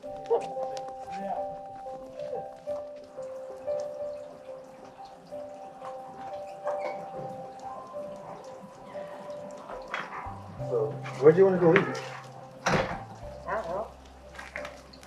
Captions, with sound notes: (gentle music) (group chattering) (water trickling) - So where'd you wanna go eat? - I don't know.